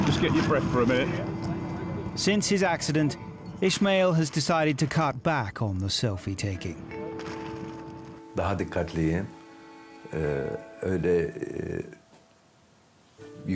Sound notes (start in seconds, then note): 7.2 camera shutters; 8.4 speaks in foreign language